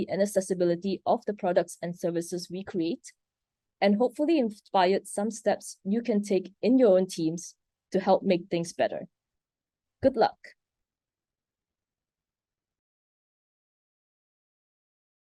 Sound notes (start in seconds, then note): 11.7 silence